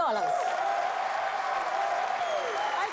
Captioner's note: cheers and applause